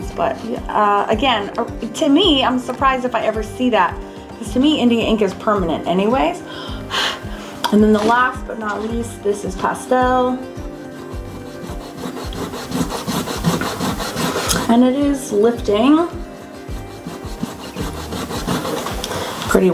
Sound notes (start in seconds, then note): 6.9 blows; 10.2 eraser rubbing